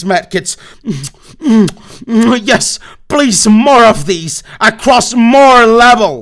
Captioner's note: smooches